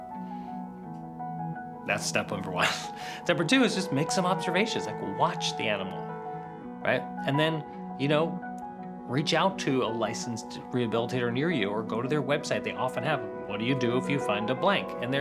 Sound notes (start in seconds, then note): 2.5 chuckles